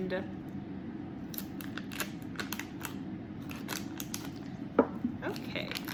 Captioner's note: plastic cutting noise